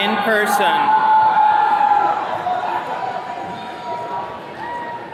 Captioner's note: attendees cheering